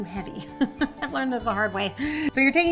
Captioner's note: laughs